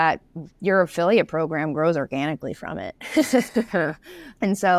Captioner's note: laughs